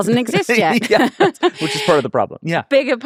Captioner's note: both laughing